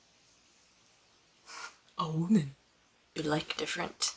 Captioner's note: mocking